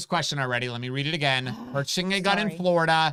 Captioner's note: groans